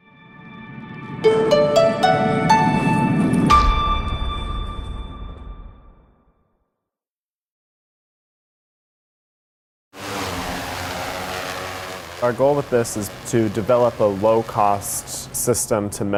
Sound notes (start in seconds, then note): 1.3 upbeat music; 9.9 drone buzzing